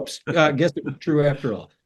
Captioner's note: laugh